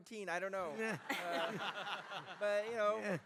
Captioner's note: laughter